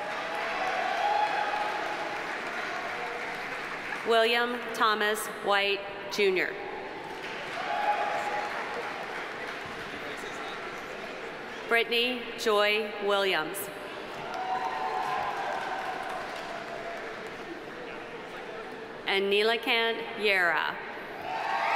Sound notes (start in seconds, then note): 0.0 audience cheering; 0.0 audience applauding; 7.0 audience applauding; 7.4 audience cheering; 14.1 audience applauding; 14.2 audience cheering